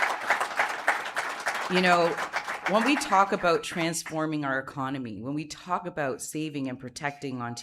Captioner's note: applause